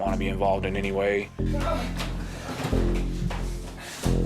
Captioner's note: grunting